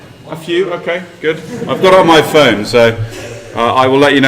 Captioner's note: laugh